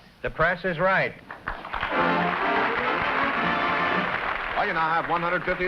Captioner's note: applause